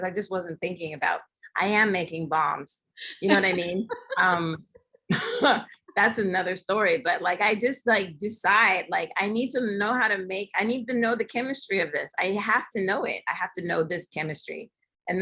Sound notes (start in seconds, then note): 3.1 laughter